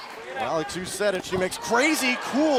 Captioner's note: crowd cheering